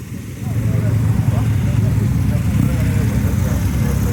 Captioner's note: motorbike engines